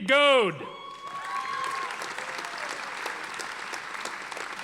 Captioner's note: audience applauding